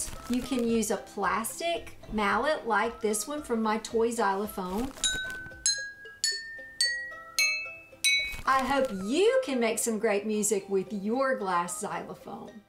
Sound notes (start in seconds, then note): 4.9 glass ringing different notes